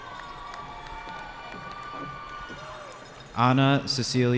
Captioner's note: cheering